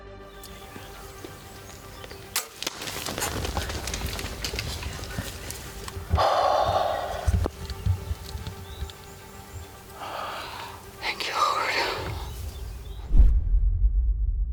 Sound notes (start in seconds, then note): 2.2 bow thumping; 6.2 sighing